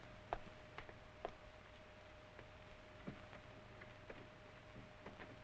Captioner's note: footsteps approaching